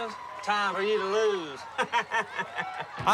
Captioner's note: laughing